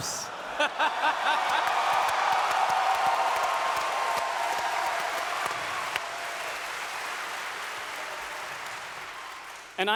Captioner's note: audience cheers